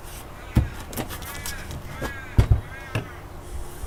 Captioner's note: birds calling